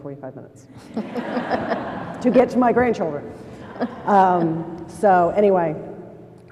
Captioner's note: laughter